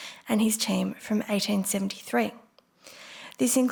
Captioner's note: none